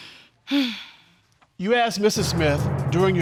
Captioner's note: sighs